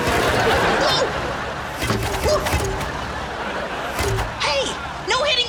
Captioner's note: audience laughs